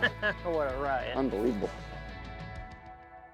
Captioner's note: laughs